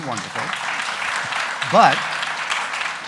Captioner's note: audience applauding